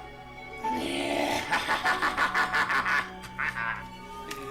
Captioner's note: maniacal laughter